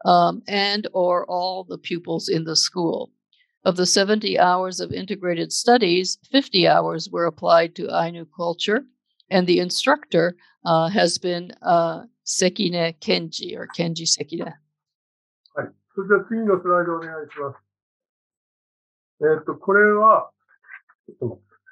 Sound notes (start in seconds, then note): 16.9 speaking japanese